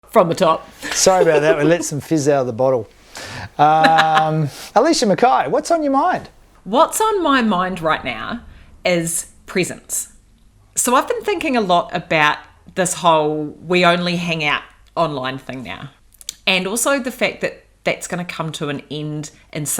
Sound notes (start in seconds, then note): 3.5 laughs